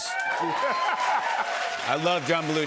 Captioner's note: cheers and applause